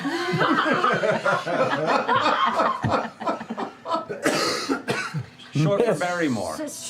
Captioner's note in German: Lachen